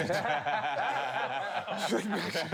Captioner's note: all laughing; laughing